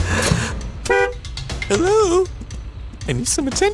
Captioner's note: honking